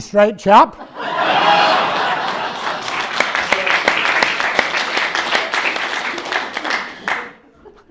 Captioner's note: loud laughing and clapping from audience